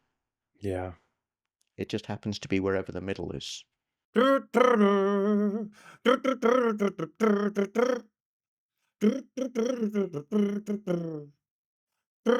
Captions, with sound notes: Yeah. It just happens to be wherever the middle is. (humming)